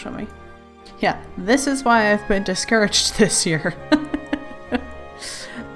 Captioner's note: laughs